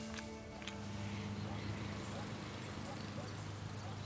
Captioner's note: lawnmower chugs